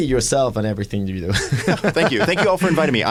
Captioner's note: laughter